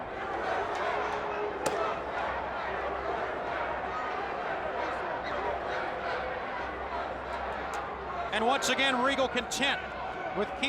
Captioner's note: crowd chatter